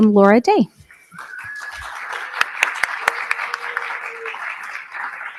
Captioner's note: audience clapping